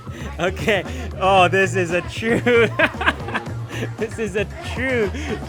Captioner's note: laughs